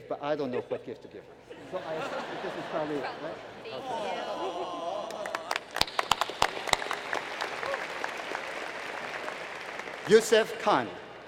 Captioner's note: laughter; applause